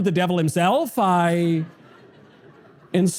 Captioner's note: audience laughter